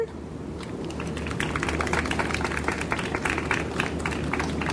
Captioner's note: audience applauds